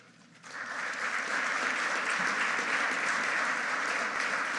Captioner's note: audience applauding